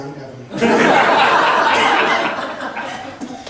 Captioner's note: laughs